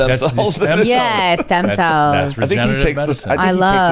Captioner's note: laughs